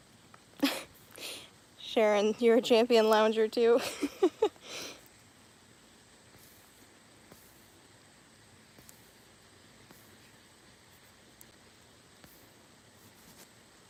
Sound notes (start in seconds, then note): 3.7 laughing